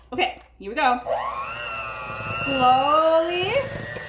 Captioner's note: mixer whirring